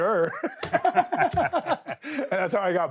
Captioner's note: Sami and Steve laugh